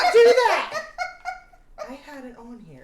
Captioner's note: laughing